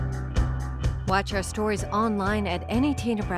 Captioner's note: upbeat music; voiceover